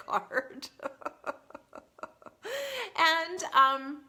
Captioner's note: laughs